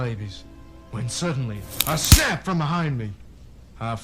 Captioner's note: snap